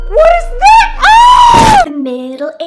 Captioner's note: screams; body thuds